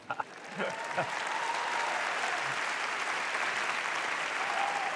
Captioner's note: applause